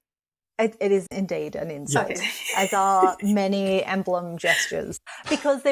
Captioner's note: laughs